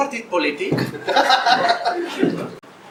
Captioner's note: laughs